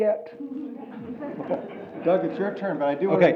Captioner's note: audience laughs